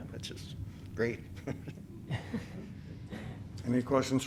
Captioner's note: laughter